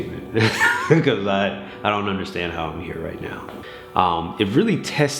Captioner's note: laughs